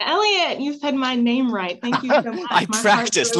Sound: laughter

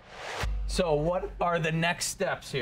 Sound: whoosh

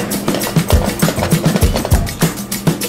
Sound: pan scraping

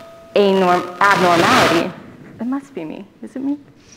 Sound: microphone buzzing

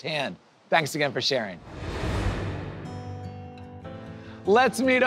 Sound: air whooshes

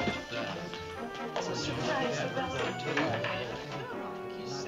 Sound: jurors whispering

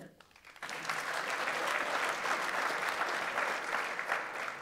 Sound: audience applauds

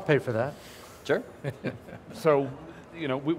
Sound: laughter

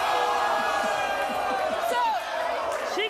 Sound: audience boos and yells

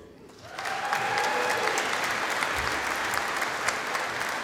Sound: audience applauding

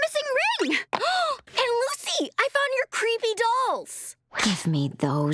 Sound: gasping

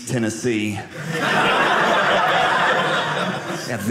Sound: audience laughing

